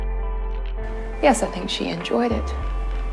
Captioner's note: voiceover